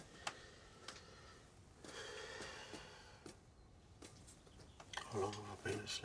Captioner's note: sighs